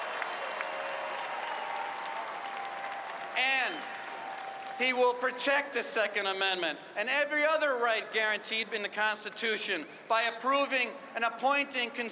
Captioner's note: cheers and applause